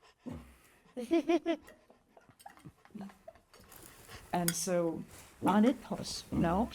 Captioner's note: laughs